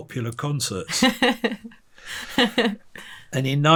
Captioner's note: interviewer laughing